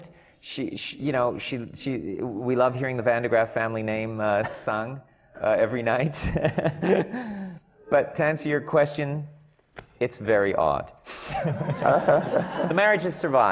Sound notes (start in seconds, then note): 6.1 laughs; 11.2 laughter